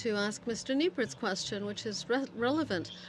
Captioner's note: speaking French